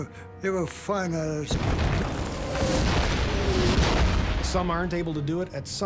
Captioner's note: shells exploding